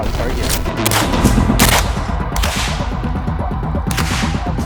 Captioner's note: gun firing